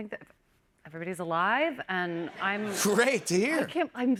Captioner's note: laughter